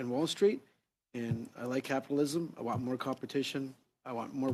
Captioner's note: speaking French